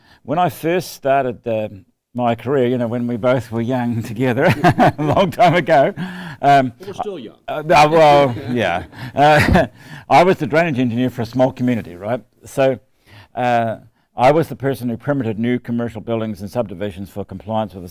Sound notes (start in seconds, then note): 4.4 laughter; 7.6 laughs